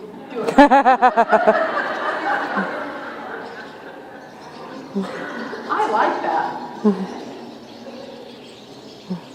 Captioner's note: laughter